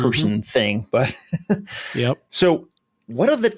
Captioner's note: laughing